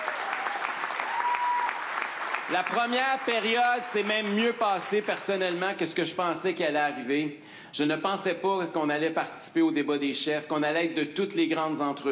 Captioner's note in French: applaudissements